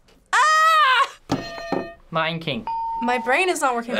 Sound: hitting bell

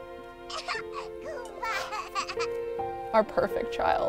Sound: baby laughing

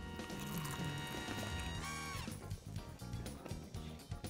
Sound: crunching

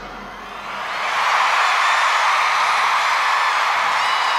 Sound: cheers and applause

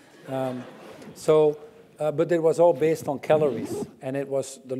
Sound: laugh

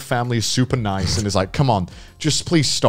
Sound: laughing

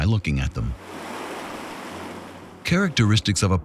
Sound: waves crashing

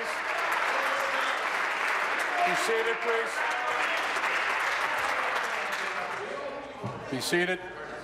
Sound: applause

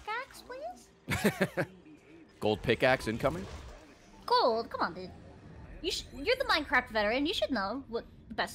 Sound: laughs

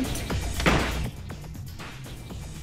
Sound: door closes

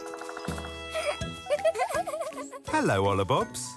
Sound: giggling

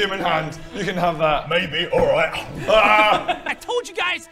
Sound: nom

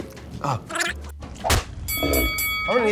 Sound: smacking sound; bell Ding

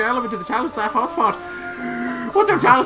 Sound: gasp

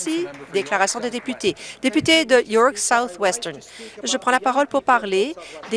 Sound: applause

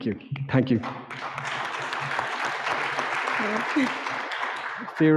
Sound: audience clapping

